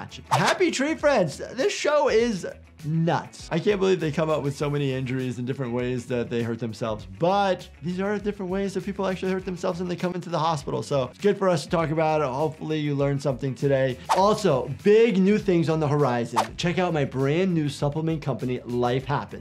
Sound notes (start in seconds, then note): 16.3 text whooshes